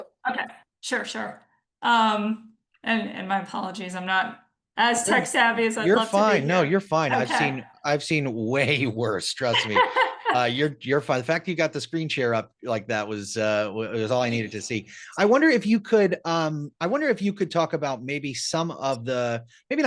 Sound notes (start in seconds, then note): 9.4 laughs